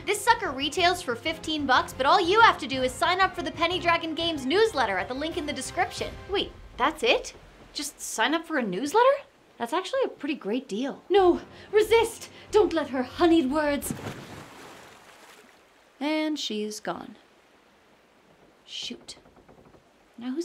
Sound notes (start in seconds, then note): 13.4 water splashes